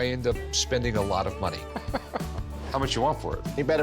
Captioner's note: Rick laughs